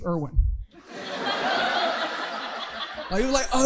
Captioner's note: audience laughing